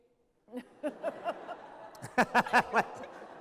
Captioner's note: laughter